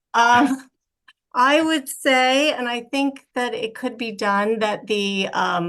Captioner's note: laughs